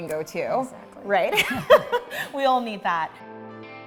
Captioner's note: laughs